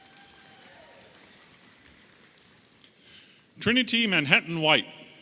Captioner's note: audience applauding and cheering